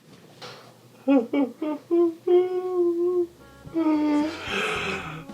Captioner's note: crying sounds